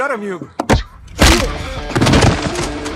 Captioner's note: guard grunts